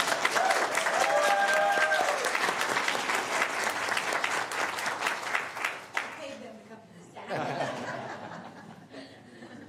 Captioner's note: applause